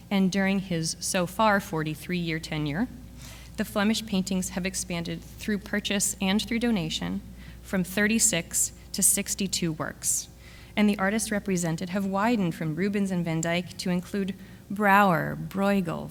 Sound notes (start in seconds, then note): none